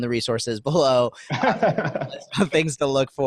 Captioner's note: laughing